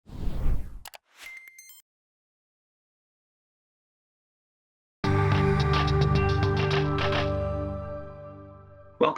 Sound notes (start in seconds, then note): 0.0 logo swooshes; 0.8 mouse clicks; 1.2 digital pinging